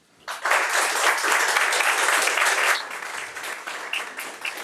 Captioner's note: audience applauds